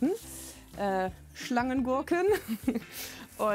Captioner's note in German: Lachen